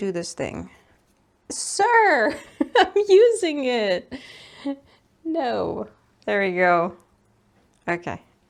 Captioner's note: giggles